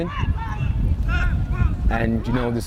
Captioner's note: players shouting